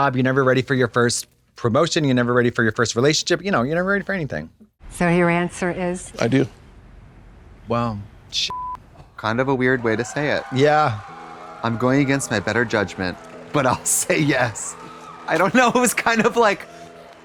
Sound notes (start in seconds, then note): 8.5 beep; 10.9 guests cheering